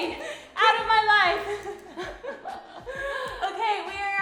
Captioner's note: laughing